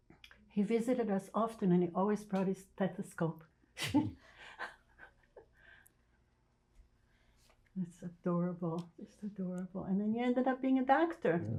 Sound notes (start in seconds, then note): 3.8 laughing